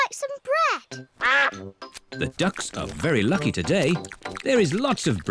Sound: quacks

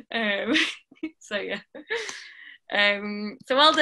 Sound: laughing

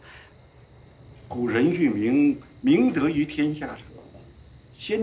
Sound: speaking Chinese

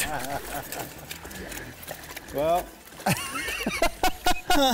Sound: group laughter

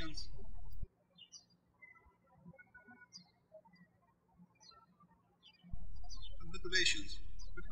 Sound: birds chirping

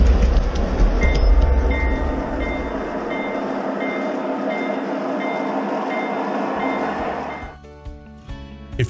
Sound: train bell

